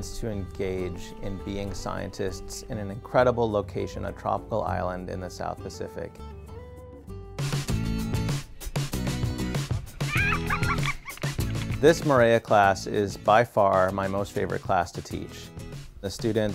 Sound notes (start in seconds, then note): 6.1 upbeat music; 10.0 laughter